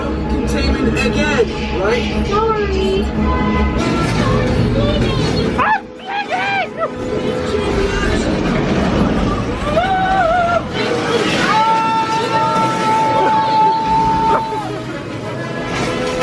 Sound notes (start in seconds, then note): 5.9 dramatic music; 5.9 shrieks